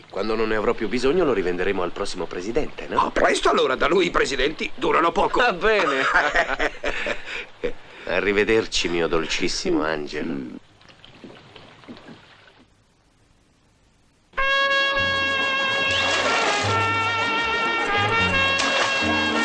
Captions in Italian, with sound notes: Quando non ne avrò più bisogno lo rivenderemo al prossimo presidente. No, presto. Allora, da lui i presidenti durano poco. Va bene. [risate] Arrivederci, mio dolcissimo angelo.